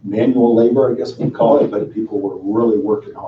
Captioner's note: chuckling